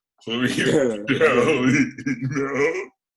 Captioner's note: laughs